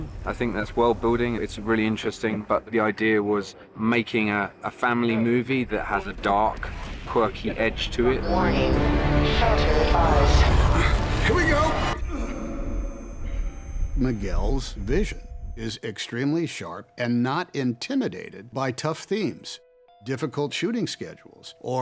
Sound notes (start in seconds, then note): 10.1 wind blowing; 11.3 high-pitched ringing